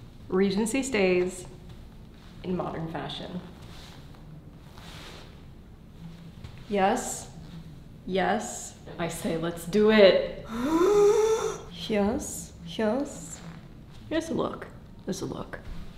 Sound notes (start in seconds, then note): 3.7 clothing rustling; 10.4 grunting